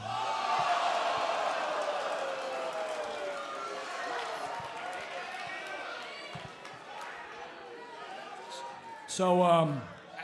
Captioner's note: crowd cheering